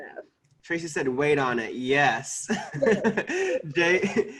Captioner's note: laughing